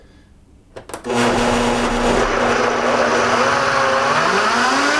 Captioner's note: whirring